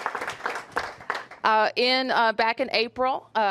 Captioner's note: applause